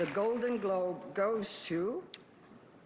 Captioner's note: applause